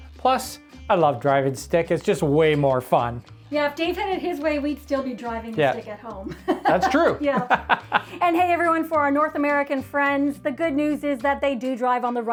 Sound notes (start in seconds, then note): 6.4 chuckling